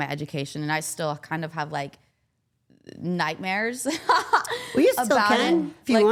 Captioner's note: laughs